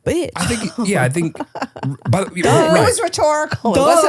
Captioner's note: laughing